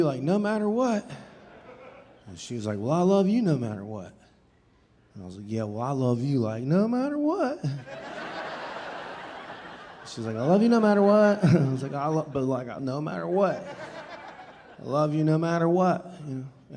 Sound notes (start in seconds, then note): 7.7 audience laughing